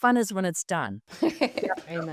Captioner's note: group laughs